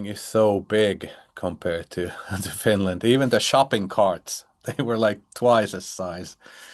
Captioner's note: chuckles